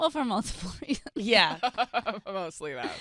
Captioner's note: laughing